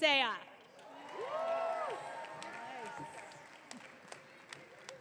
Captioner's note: audience cheering